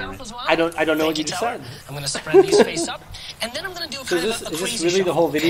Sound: laughs

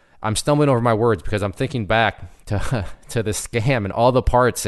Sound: laughs

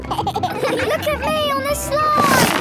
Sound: giggles

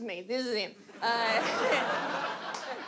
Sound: audience laugh

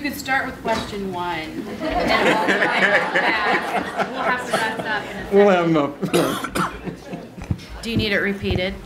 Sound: laughter

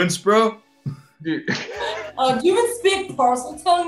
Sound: laughing

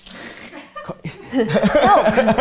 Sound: group laughing

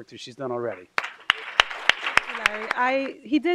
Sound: applause

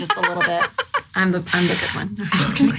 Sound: laughing loudly

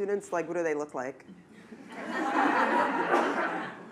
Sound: laughter

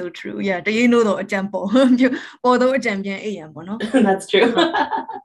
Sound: speaks in Burmese; laughs

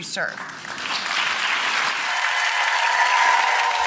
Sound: audience cheering

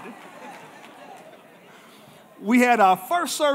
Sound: congregation giggling

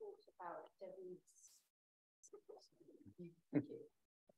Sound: faintly speaking

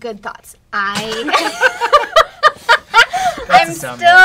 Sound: laughter

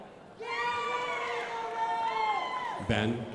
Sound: crowd applauding

